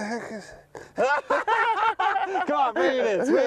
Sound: laughter!!

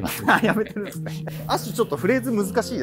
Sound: laughs

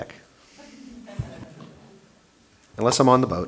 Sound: murmurs

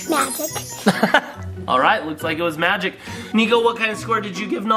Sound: dad laughs

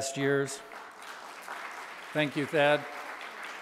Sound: audience applauding

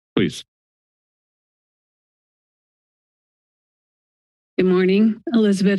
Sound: silence

